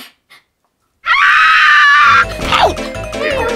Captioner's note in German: Schnüffeln; Lauter Aufschrei; Au-Ruf, lautes Meckern